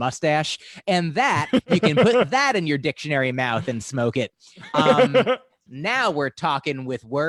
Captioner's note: laughter